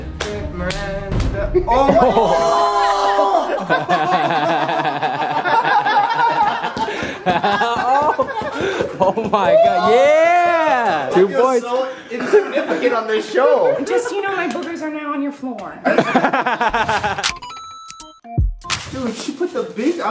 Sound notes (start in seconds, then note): 4.0 laughter; 15.8 laughter; 17.4 chime